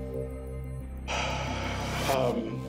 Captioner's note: sighs